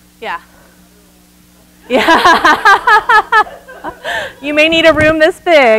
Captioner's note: loud laughter